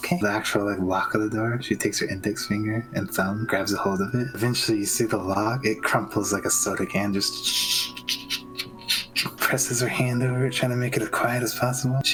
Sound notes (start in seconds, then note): 7.4 chhchch chchchhhch